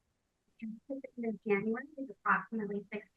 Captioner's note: speaks faintly